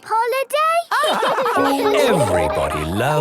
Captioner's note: all laugh